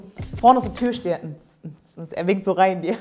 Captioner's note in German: Sie ahmt Beats nach